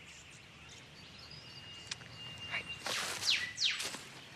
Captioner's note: whispers